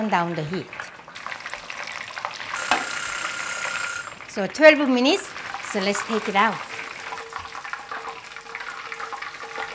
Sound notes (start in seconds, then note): 2.5 alarm rings